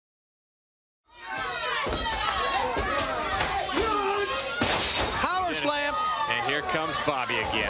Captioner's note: crowd cheering